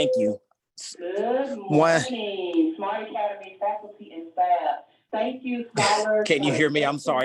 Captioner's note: background intercom announcement